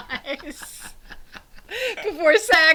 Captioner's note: both laughing